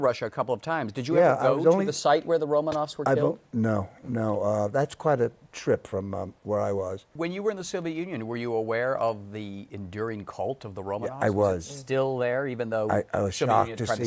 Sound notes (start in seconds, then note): none